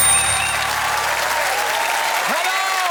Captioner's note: applause